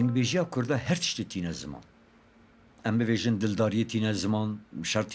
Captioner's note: speaking in Kurdish